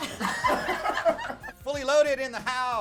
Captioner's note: laughter